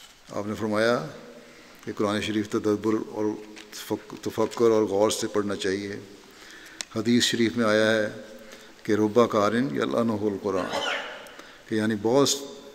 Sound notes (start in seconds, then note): 10.5 Arabic